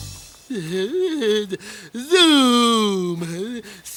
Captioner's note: laughing